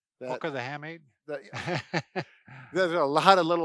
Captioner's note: laughs